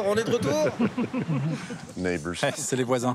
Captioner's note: laughs